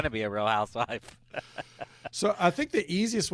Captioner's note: laughs